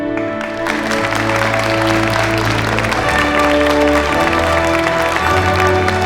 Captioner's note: audience applauding